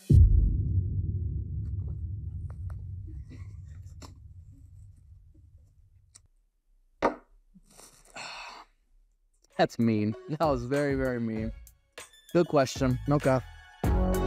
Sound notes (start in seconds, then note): 7.0 glass hitting table; 7.8 sighs; 14.1 rhythmic music